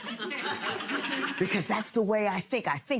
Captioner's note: audience laughs